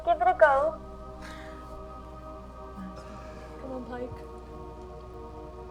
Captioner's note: quietly